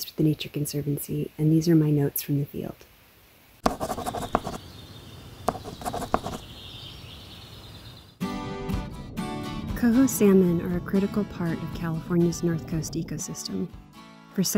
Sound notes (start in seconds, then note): 3.6 pencil scratching sound; 8.3 upbeat acoustic music